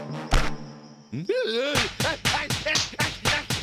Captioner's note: groaning